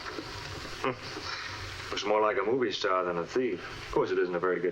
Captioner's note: scoffs